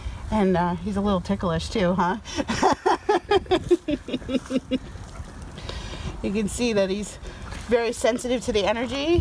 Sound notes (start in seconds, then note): 2.4 laughs